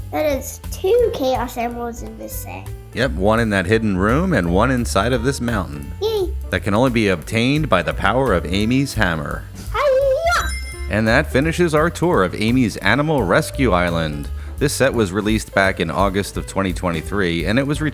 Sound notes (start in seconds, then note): 10.2 Sonic Ring Chime